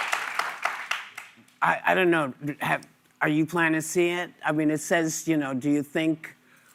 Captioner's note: applause